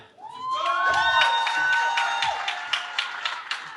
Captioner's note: cheering